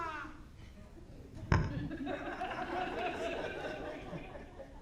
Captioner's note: audience laughing